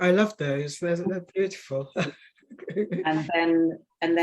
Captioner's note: woman chuckling